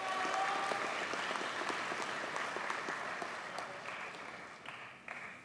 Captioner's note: audience cheers and applauds